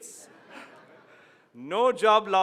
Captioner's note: laughs